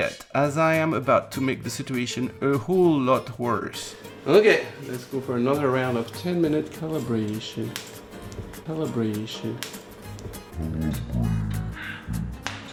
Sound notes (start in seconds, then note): 7.7 popping noise; 10.4 popping noise